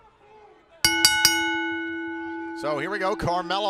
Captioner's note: bell ringing